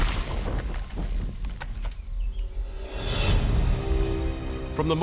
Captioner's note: tree creaking